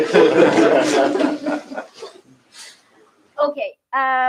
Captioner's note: laughter